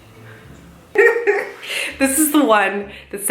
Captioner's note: laughs